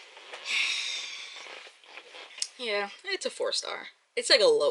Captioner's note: deep sigh